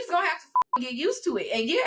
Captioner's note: beep